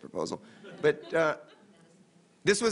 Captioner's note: laughter